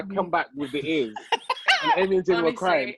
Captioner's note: laughs